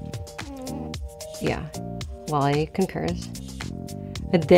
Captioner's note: Wally groans